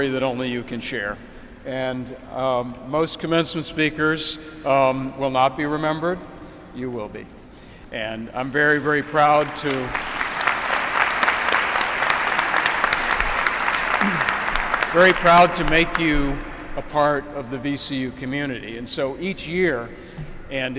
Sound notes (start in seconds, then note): 9.1 applause